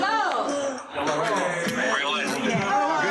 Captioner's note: yelling